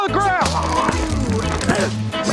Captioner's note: taser buzzing